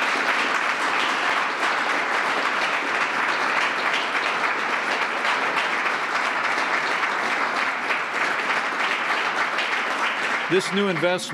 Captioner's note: applause